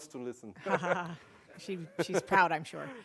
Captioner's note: laugh